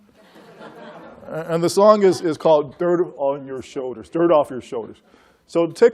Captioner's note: laughter